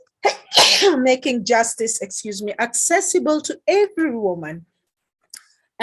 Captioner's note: coughs-excuse me